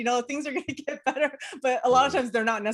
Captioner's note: laughs